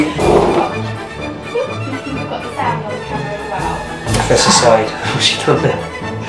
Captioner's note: chair drags off camera